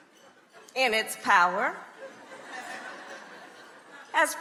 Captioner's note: crowd laughing